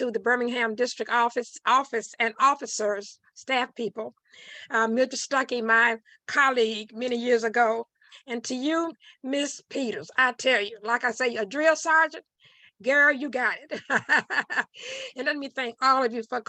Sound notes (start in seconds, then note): 13.7 laughing